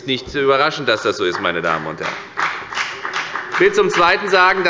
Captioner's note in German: Beifall bei der FDP